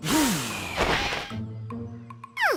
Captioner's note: exhales